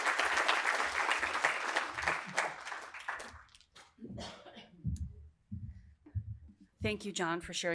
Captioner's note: applause